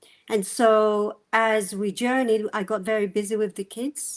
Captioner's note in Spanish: none